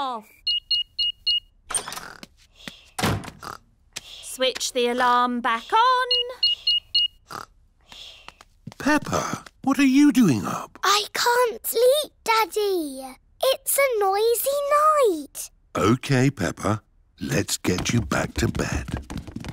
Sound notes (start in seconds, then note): 0.4 beeping; 6.0 beeping